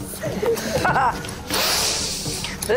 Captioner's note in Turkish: Gülme sesi